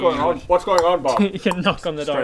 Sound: knock knock knock

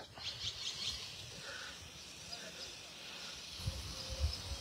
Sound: birds squawking

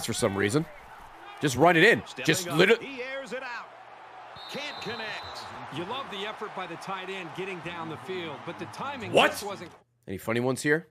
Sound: laughs

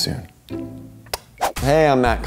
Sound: kisses

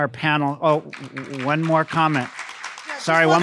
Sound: audience applauding

